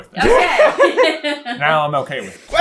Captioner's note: team laughter